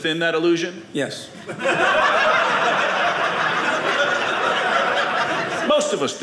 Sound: audience laughing

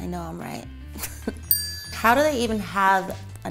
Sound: bell dings

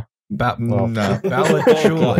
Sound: laughter

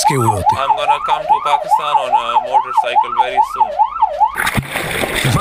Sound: siren blaring

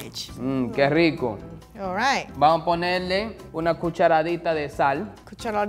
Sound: speaking in foreign language

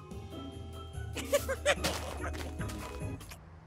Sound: conniving laugh

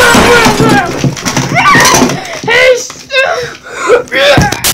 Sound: sobbing

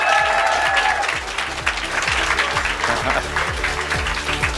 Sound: applause

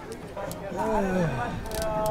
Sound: grandpa sounds

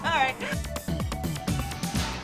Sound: laughter

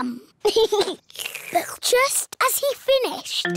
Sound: giggles; slurps

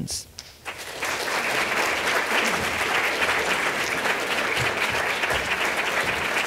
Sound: applause

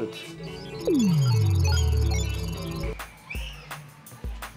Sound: beeping; light pop music

